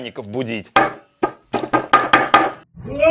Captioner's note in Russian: Стучит молотком 3х